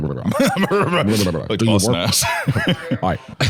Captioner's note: laughs